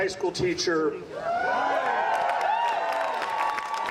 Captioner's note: audience applauding